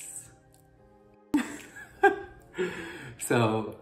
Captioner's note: laughs